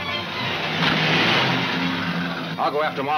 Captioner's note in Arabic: محرك يدور